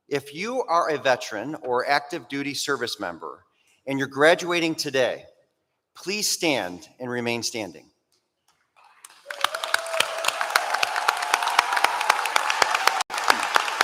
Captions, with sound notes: If you are a veteran or active duty service member, and you're graduating today, please stand and remain standing. [APPLAUSE]